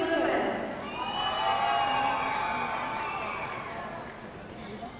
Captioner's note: audience cheering